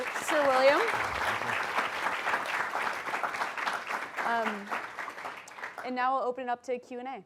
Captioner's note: applause